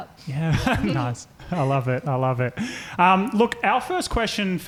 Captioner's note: chuckles